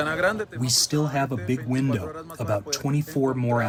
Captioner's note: through translator